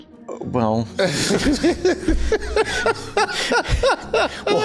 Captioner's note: laughs